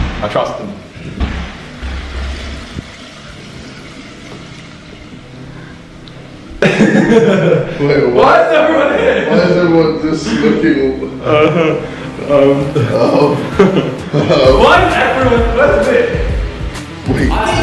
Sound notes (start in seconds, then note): 8.9 laughter; 12.4 nervous laughter